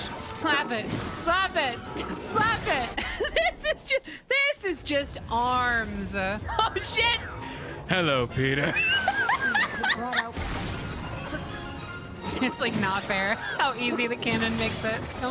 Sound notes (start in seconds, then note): 2.7 laughing; 7.8 Doc Ock Voice; 8.4 laughter